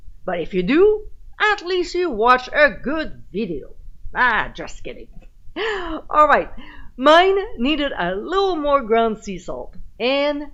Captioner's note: giggling